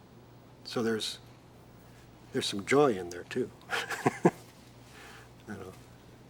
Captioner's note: laughs